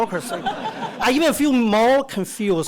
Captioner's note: audience laughter